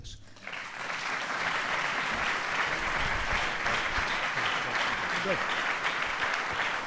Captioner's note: applause